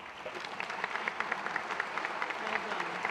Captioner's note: applause